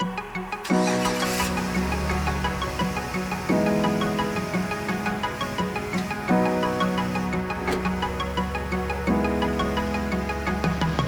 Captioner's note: engine starting